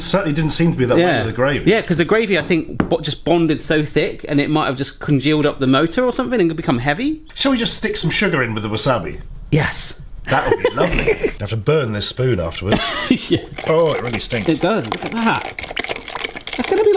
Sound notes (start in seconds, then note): 10.2 laughs